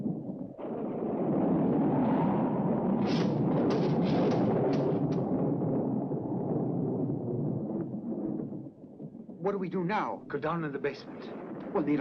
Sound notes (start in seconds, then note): 1.3 thunder rumbling; 1.3 wind howling